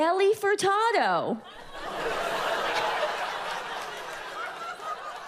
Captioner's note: audience laughs